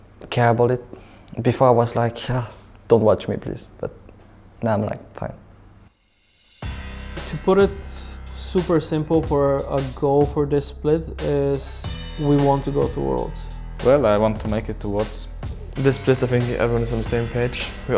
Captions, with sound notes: care about it. Before I was like, (shudders) don't watch me please, but now I'm like, fine. (intense music) To put it super simple for a goal for this split is we want to go to Worlds. Well, I want to make it to Worlds. This split I think, everyone is on the same page.